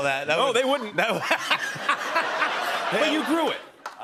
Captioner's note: laughter